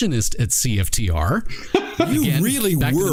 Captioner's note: laughing